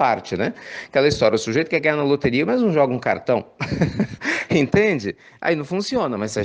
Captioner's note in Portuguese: risos